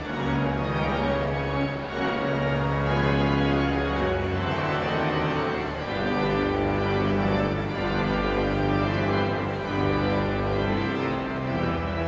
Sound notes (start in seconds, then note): 1.3 exhilarating organ music continues; 5.8 audience chattering continues